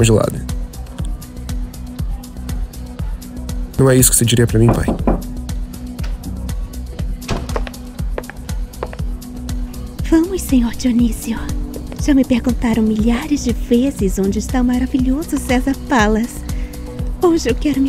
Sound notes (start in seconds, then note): 4.6 knocking on the door